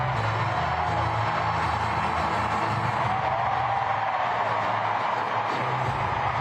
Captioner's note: cheers and applause